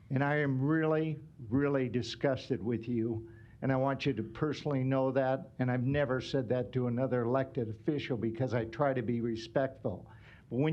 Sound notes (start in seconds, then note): none